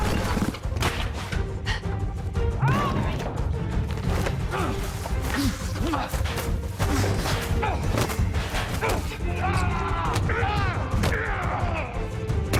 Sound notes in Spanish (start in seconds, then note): 2.5 Gritos y exclamaciones; 9.4 Gritos